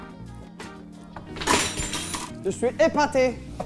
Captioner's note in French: fracas